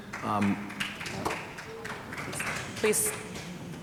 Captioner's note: audience clapping